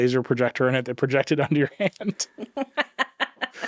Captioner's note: chuckling